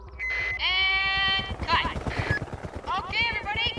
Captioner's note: thru bullhorn